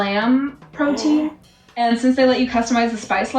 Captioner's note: gasps